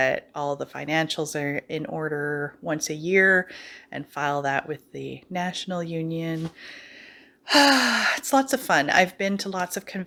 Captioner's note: sighs